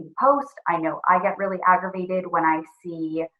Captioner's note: none